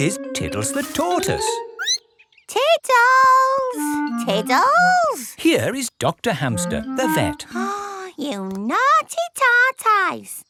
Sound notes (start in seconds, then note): 1.8 squeaks; 7.4 gasps